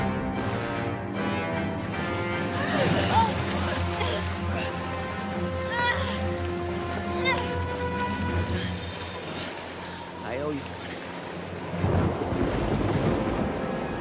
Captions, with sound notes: (Gasping and spluttering) I owe you one.